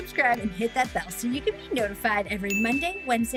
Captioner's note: bell dinging